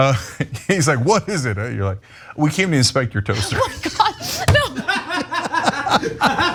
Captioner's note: laugh; laugh